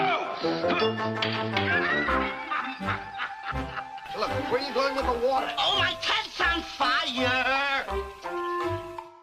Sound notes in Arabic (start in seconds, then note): 0.6 شيمب يضحك